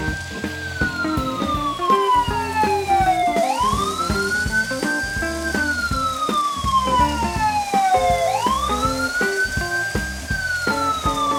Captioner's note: siren blaring